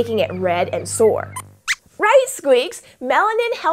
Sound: squeaks squeaks

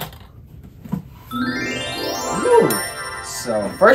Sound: magical chiming

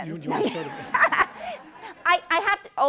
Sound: laughter

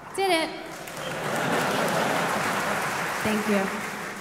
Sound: audience applauding

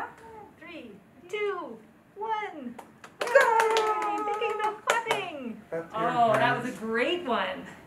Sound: Holland Bloorview staff and clapping heard

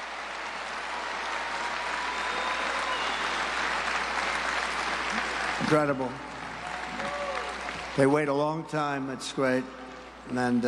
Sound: applause

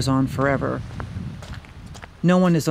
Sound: footsteps crunching on snow

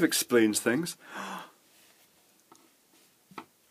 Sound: gasps

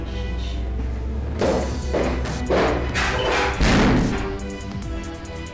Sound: steel clunks

